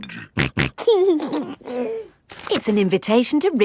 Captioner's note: snorting and giggling